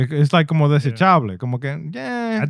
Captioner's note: speaking In Foreign Language